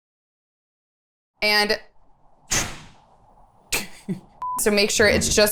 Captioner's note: door slams; laughs; sink noise